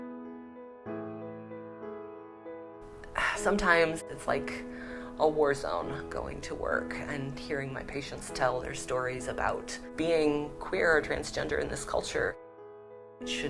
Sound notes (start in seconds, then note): 4.7 sigh